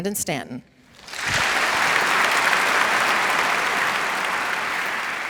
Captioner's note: audience applauds